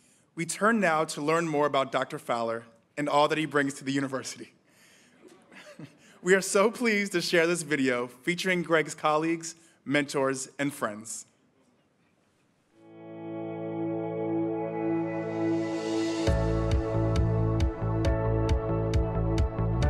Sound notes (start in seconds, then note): 5.2 chuckles; 13.4 upbeat music